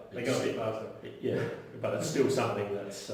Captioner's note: laughs